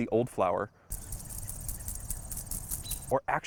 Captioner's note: rattling sound